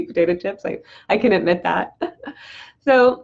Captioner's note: laughs